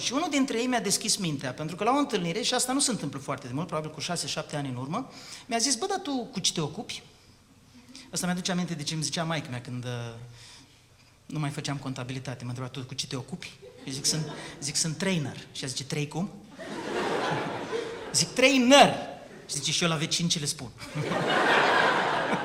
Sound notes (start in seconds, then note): 16.5 laughter